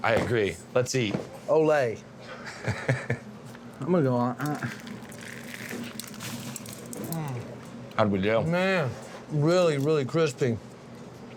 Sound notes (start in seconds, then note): 2.6 laughs; 4.4 crunchy sound